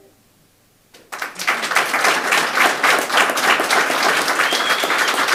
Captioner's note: audience applauding